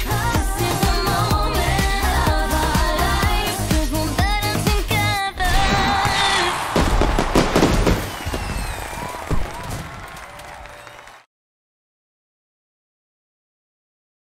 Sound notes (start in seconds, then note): 5.4 cheering